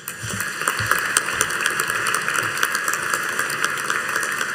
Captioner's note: audience applauding